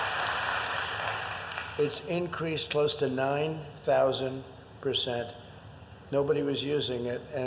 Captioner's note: applause